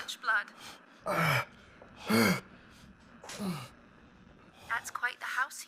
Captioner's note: Kenny heavily breathing